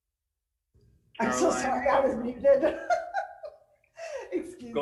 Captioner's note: laughs